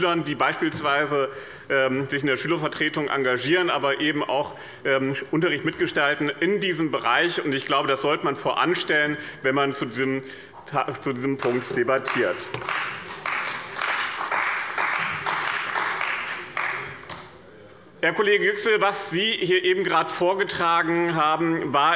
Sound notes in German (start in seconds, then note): 12.0 Beifall bei dem BÜNDNIS 90/DIE GRÜNEN und der CDU